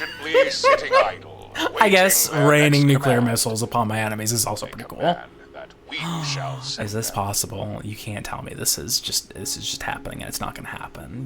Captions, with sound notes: (laughing) I guess raining nuclear missiles upon my enemies is also pretty cool. Is this possible? You can't tell me this is just happening and it's not gonna happen.